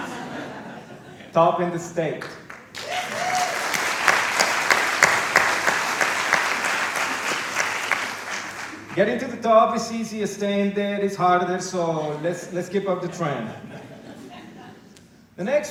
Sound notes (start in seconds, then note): 0.0 laughter; 4.4 applause